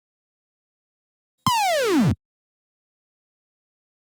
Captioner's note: video game blip